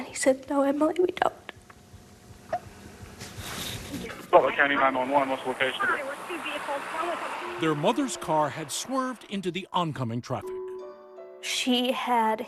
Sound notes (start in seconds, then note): 4.0 911 recording